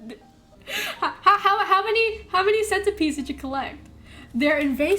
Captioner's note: stutters